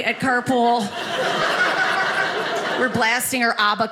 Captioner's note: audience laughing